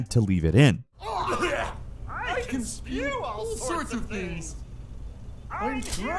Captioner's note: chokes